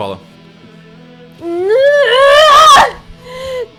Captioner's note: screams